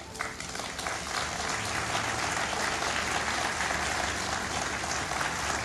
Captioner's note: applause